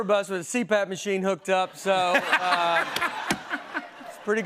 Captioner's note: laughter